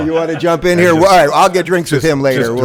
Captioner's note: laughs in background